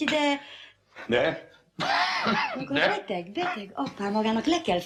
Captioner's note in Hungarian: köhög